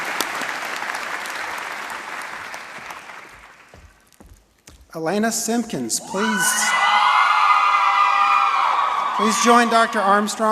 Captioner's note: applause and cheering